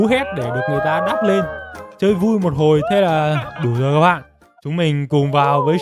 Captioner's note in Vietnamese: hò reo